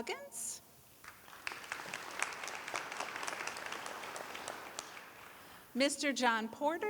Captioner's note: applause